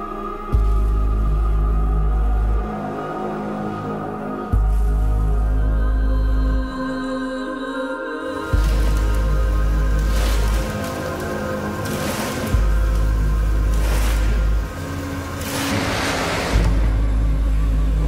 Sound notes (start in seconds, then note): 6.3 eerie music; 9.9 crate scraping